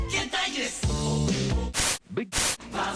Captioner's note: static